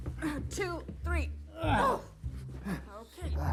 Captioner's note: Michael and Joan grunting